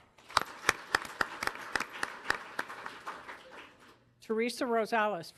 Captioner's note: audience applauding